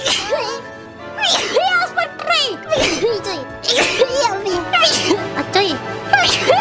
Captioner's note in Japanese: くしゃみ; くしゃみ